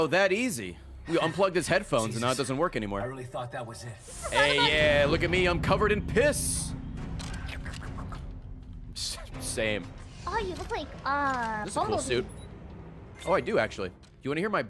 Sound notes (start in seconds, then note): 8.0 slurping